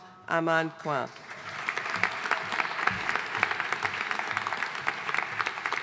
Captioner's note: audience applauding